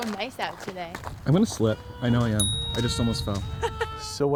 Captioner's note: man and woman talking in background